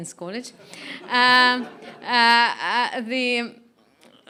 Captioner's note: laughing